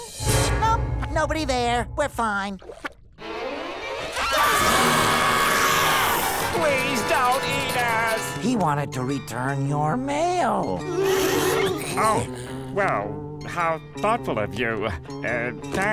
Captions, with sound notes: No, nobody there. We're fine. [screaming] Please don't eat us. He wanted to return your mail. Oh. Well, how thoughtful of you. Uh, thanks.